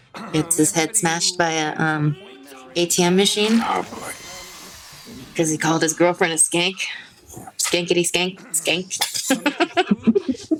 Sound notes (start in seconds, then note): 7.9 laughs